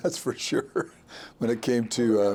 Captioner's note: chuckling